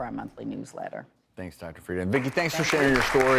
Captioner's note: applause